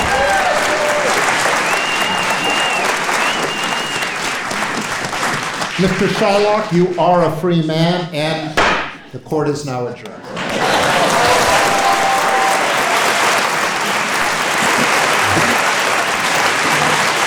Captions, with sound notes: Mr. Shylock, you are a free man and, (hammer thuds) the Court is now adjourned. (audience applauding)